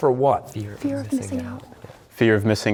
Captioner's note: whispering